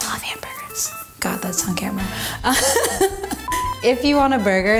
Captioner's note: laughs